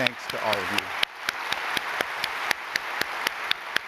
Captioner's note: applause